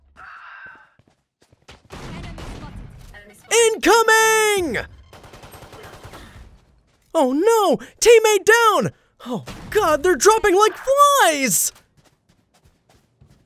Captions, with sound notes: (gun firing) Incoming! (guns firing) Oh no, teammate down! Oh god, they're dropping like flies...